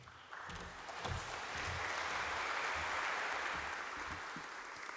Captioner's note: applause